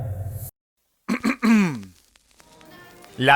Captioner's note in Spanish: carraspea